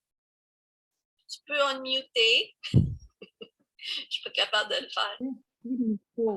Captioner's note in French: rire